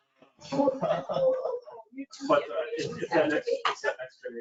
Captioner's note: people chattering; people chuckling